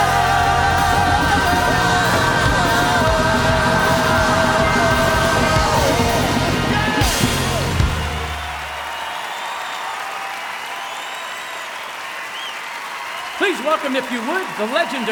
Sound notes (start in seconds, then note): 3.2 cheering and applause